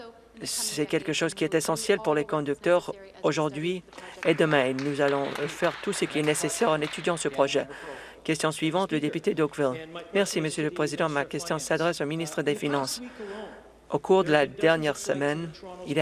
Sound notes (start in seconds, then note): 8.3 some Applause